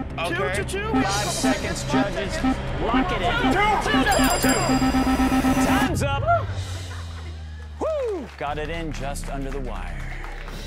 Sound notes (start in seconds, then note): 4.7 rapid beeping